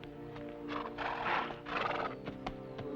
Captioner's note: horse snorts